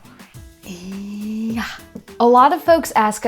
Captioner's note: sighs